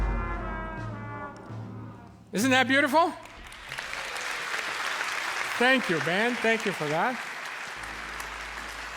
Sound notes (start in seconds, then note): 0.0 dissonant instrumental descends to lowest notes; 3.2 cheers and applause